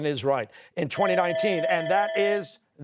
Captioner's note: bell ringing